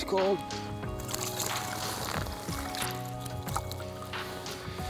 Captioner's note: water splashing